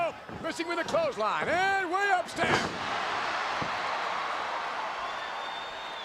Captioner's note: crowd cheers